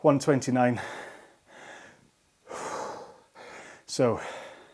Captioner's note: exhaling